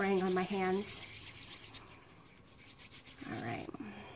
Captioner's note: hands rubbing